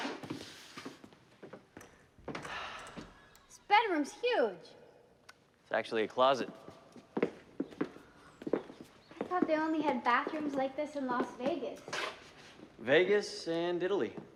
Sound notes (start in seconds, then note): 2.3 sighs